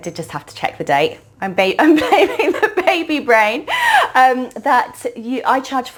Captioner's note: chuckling